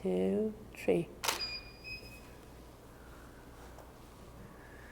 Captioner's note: shutter clicking